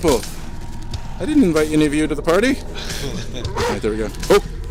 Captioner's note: laughs